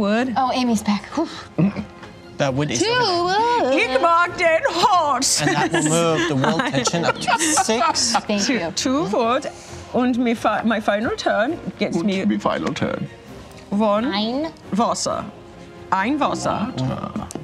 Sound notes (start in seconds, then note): 1.4 sighs in relief; 4.2 speaks in German; 9.2 imitating German accent; 13.8 speaks in German